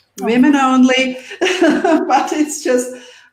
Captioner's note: laughing